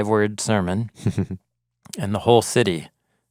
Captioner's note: chuckles